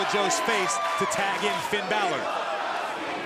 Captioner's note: crowd cheering